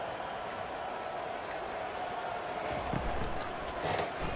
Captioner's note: crowd cheering